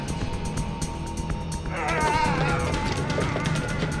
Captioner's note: both grunting